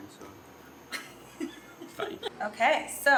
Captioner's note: laughs